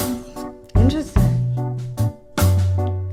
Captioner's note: roars